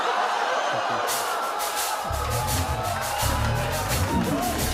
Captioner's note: laughter